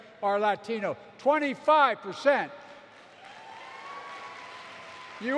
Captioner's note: applause